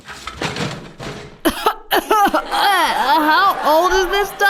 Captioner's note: Aisha starts coughing from the dust